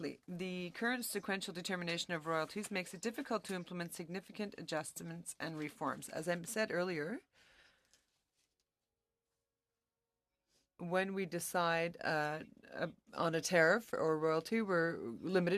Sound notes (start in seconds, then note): 1.6 speaking French